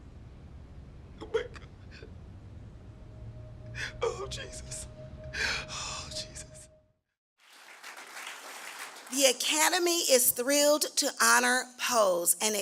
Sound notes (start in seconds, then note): 7.4 applause